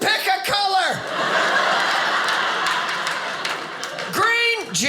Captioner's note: audience laughing